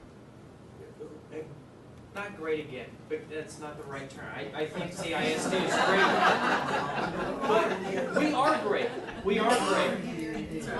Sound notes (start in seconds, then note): 4.8 audience laughing